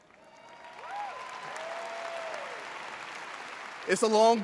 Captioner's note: audience cheers